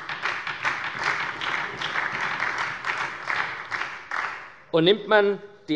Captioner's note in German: Beifall bei der SPD und bei Abgeordneten der LINKEN